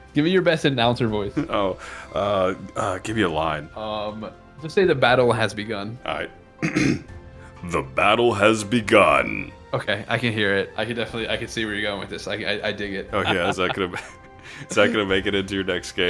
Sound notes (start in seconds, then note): 6.6 ahem